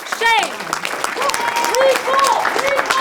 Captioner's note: crowd applauding